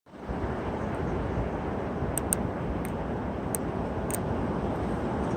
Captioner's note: wind Howling